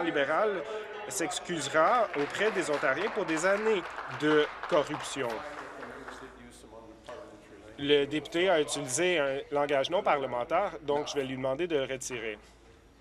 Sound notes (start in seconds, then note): 6.0 applause